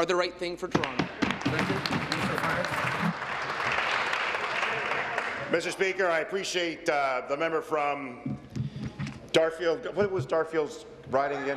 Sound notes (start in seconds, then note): 4.5 applause